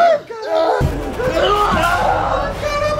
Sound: both scream

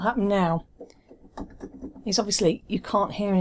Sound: keys thudding

